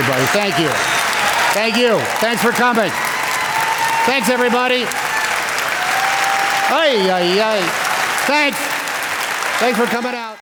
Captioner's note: cheers and Applause